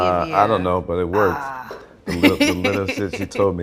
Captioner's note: laughs